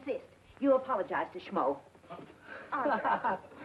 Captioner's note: Billy laughing